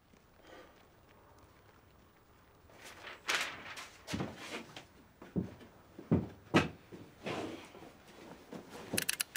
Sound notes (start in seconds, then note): 4.2 paper rustling